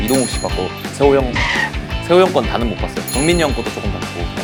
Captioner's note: hesitant